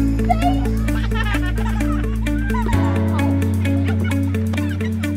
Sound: children laughing; upbeat music

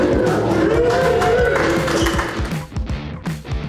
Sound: crowd cheering

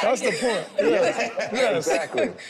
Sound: group laughs

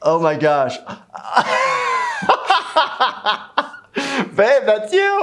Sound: jovial Laughter

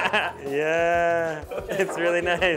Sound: laughs

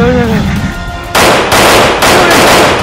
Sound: guns firing

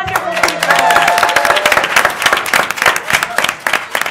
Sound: applause

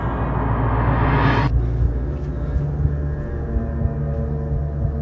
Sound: heart beats

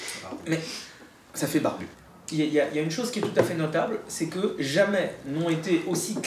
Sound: speaking in a foreign language

